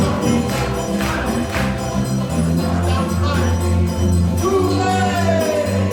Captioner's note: congregation clapping